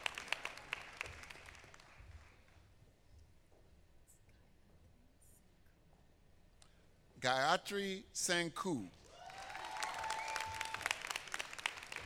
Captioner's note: applause